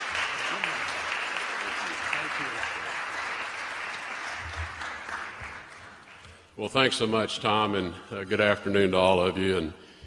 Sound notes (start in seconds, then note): 7.2 applause